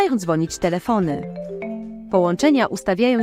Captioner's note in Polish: dzwonek telefonu